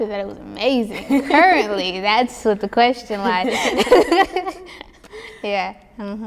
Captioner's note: laughs